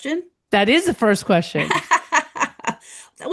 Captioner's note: laughs